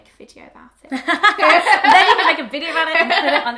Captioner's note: laughter